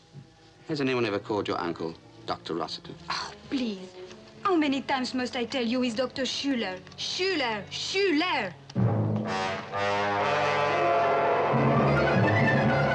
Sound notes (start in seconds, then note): 3.6 scoffs; 8.7 ominous orchestral music